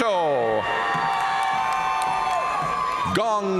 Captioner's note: audience cheering and applauding